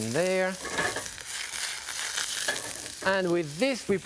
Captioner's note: pan sizzling